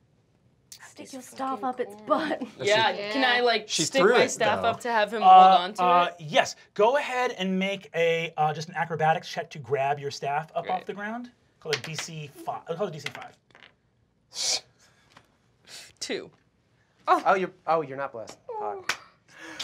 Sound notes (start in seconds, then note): 11.7 dice clacking; 13.6 scoffs